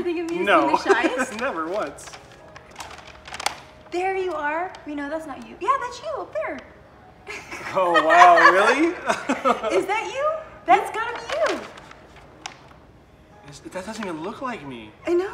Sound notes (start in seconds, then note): 7.3 laughing